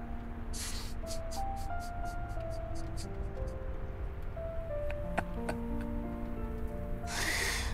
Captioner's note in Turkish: Gülüyor